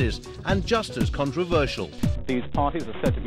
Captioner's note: soundbite of archived recording